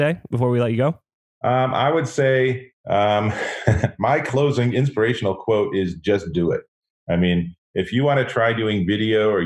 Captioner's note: laughs